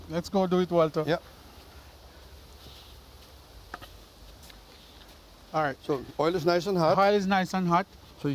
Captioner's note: wooden clunk